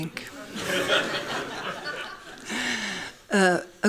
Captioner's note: laughing